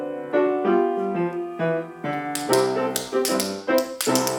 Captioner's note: tap dancing